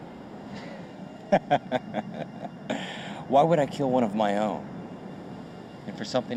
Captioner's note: laughing